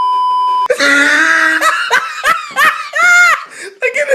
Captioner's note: wheezing laughter